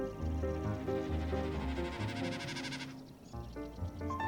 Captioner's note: a bird sound